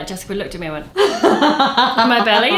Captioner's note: laughs